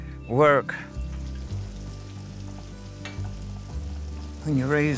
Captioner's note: food sizzling on stove